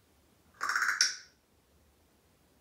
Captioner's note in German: Cracking sound